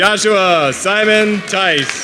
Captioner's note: applause